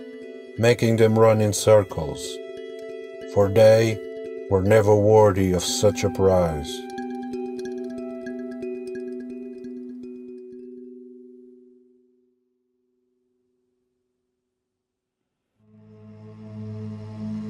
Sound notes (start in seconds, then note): 10.0 moment of Silence